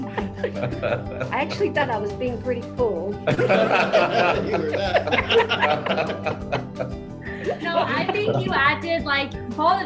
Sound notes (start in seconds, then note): 3.3 all laugh